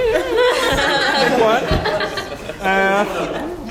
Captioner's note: laugh